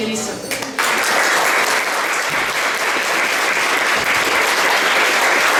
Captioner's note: applause